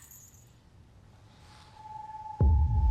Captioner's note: creaking & jangling